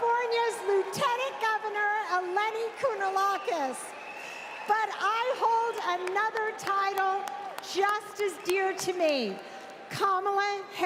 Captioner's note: chhers and applause